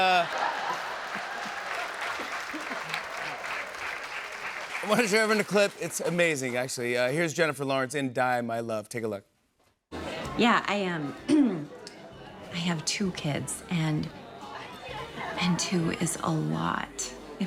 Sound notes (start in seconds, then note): 0.0 laughter and applause; 11.2 clears throat